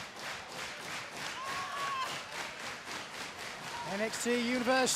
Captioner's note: clapping